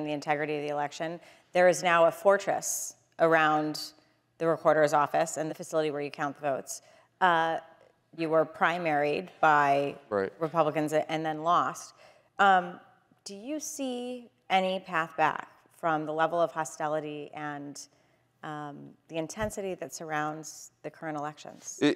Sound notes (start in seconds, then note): none